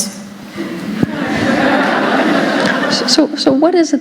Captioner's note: laughter